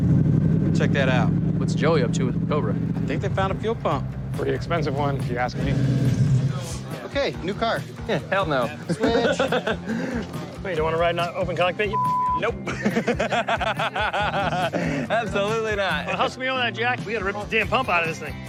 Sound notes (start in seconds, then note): 8.7 laughs; 12.6 laughter